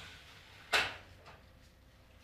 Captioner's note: clattering